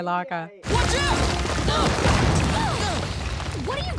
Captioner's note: grunting